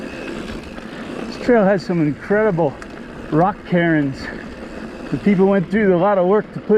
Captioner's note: bicycle whirring